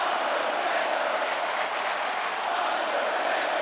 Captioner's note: audience clapping